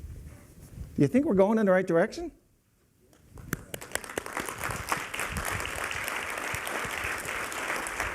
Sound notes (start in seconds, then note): 3.5 applause